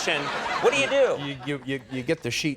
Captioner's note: audience laughs